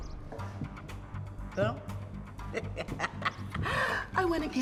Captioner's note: laughs